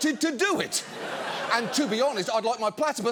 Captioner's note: studio audience laughing